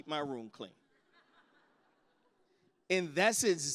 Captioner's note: laughter